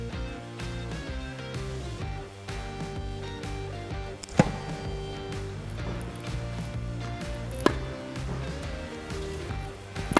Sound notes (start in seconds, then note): 0.2 upbeat music; 4.4 tennis racket hitting ball; 8.2 upbeat music